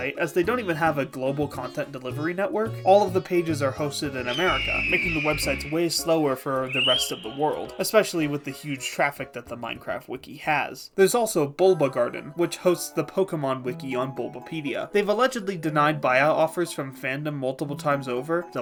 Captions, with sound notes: as they don’t even have a global content delivery network. all of the pages are hosted in America, —[eagle call] —making the websites way slower for the rest of the world, —[kiwi call] especially with the huge traffic that the Minecraft wiki has. There’s also Bulbagarden, which hosts the Pokémon wiki on Bulbapedia. They’ve allegedly denied buyout offers from Fandom multiple times over,